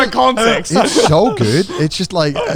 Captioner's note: everyone laughs